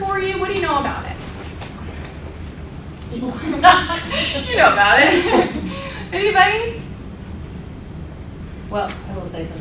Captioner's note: laughter